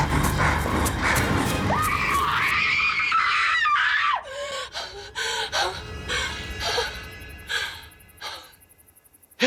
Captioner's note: screams